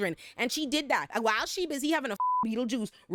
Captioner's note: beep